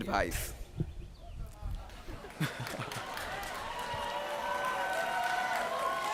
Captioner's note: laughing, cheering